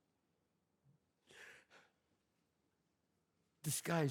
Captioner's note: sobs